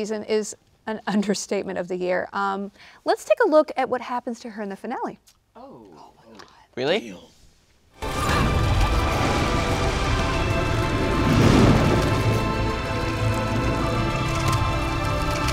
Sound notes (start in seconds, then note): 8.0 dramatic music; 11.8 thunder crackles